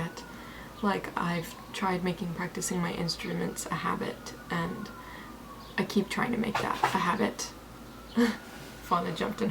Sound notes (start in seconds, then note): 6.5 rustling noise in the background